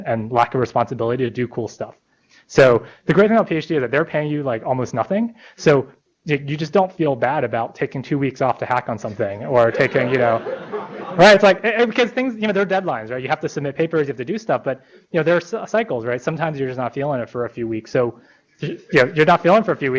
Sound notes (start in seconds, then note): 9.6 laughter